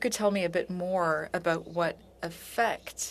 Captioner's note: speaking French